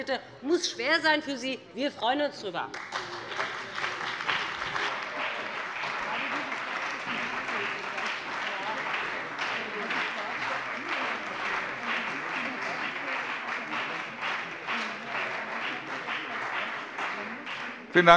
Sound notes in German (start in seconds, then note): 2.7 Heiterkeit und Beifall bei dem BÜNDNIS 90/DIE GRÜNEN und der CDU